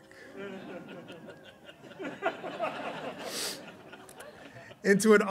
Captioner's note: laughter